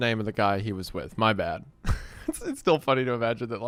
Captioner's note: laughs